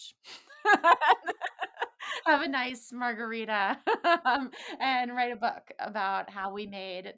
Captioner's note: laughs